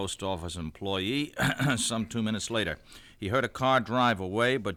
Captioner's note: clears throat